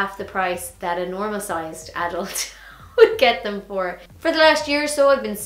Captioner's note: laughs